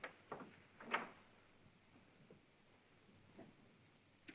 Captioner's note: door opens